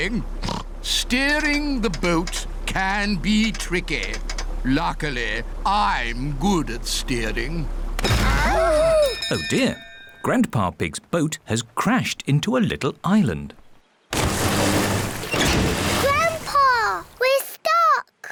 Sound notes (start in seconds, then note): 0.4 oinks; 7.5 clattering; 8.6 bell ringing; 13.6 rumbling